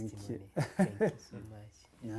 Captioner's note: laughs